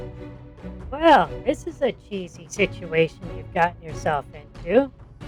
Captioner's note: sarcastically